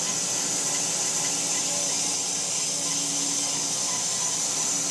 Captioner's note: saw buzzing continues